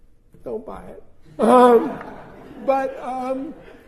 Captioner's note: laughter